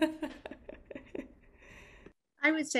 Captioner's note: laughter